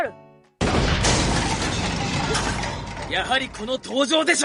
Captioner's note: crashing sound